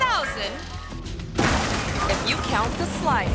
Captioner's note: ramp clangs; car crashes